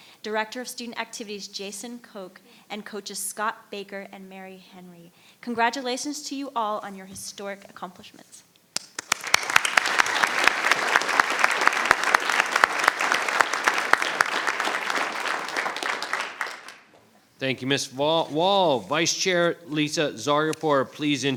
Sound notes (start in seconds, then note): 8.8 audience applauding